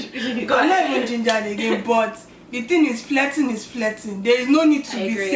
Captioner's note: excited; excited